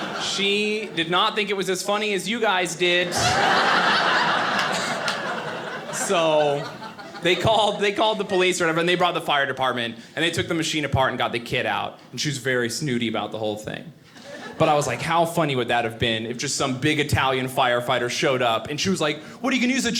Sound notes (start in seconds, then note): 2.6 audience laughing